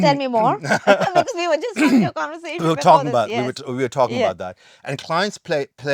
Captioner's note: laughing